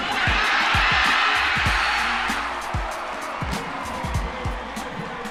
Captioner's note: cheering